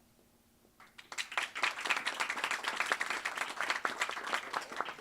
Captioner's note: audience applauds